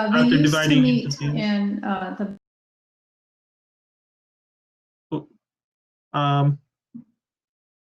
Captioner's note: technical glitch